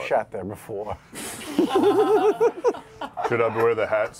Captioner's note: laughter